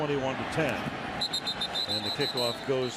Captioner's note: whistle